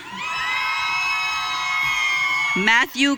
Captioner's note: audience cheering